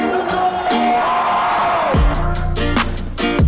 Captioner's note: crowd cheering; upbeat music